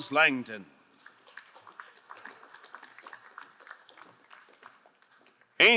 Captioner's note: crowd applauding